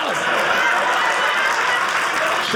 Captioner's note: audience laughing